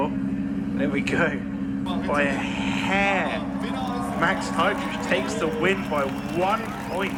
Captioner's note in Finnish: Aplodeja